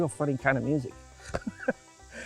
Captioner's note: laughs